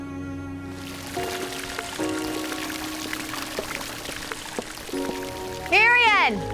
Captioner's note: water gurgling, splashing